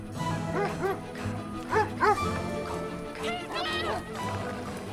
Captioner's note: dogs barking